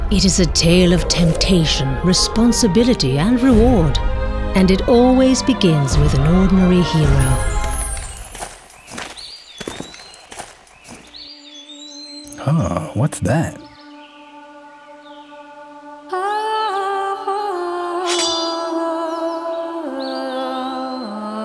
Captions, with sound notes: It is a tale of temptation, responsibility, and reward. And it always begins with an ordinary hero. (birds chirping) (footsteps crunching) - Huh, what's that? (whimsical music) (sword clanging)